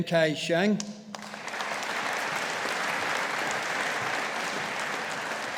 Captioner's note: audience applauding